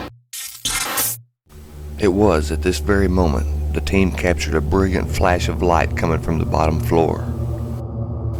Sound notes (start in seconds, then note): 0.4 electronic effect